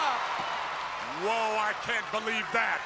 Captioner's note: crowd cheering